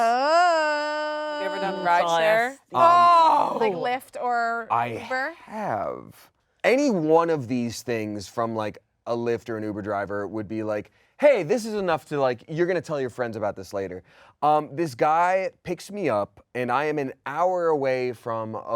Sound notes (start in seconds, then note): none